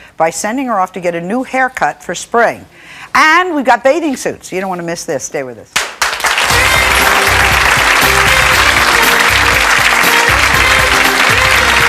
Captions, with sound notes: by sending her off to get a new haircut for spring. And, we've got bathing suits. You don't wanna miss this. Stay with us. (audience clapping) (jazzy music)